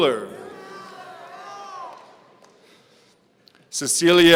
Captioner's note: audience cheering